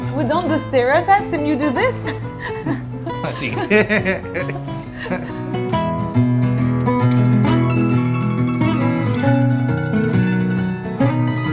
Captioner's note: laughing